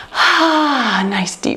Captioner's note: sighs